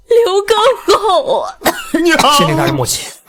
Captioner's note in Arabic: سعال، سعال